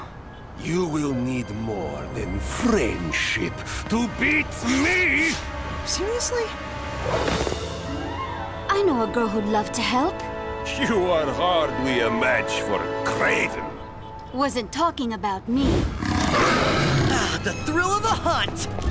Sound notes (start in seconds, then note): 15.9 growling